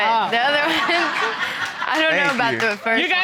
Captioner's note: all laughing